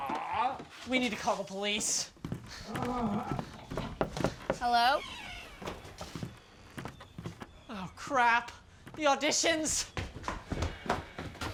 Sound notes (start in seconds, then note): 3.6 fist knocking